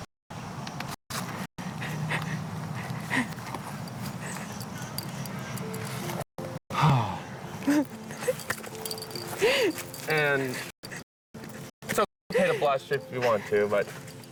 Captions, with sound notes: [Sigh] [Laughs and cries] And it's OK to blush if you want to,